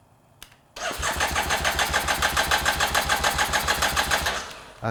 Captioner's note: engine stuttering